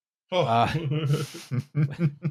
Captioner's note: chuckles